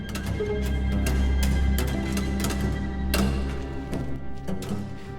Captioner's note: footsteps shuffling